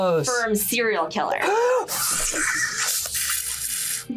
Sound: gasps

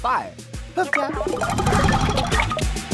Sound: chiming

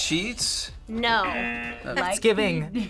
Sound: audio buzzes

